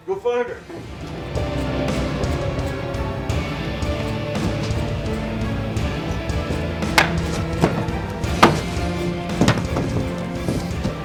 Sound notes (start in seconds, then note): 6.7 bat clacks